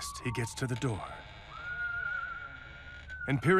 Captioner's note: door creaks quietly